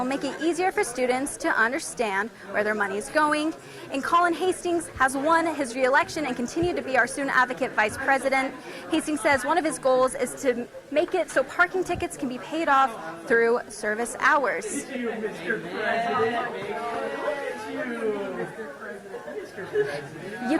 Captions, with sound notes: that will make it easier for students to understand where their money's going. And Colin Hastings has won his reelection and continue to be our Student Advocate Vice President. Hastings says one of his goals is to make it so parking tickets can be paid off through service hours. [crowd noise in background]